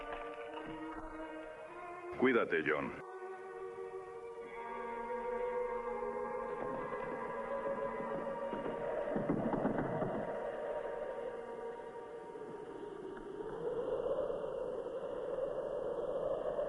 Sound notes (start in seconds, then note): 9.2 ominous music; 13.0 wind blowing